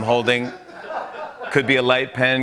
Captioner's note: laughter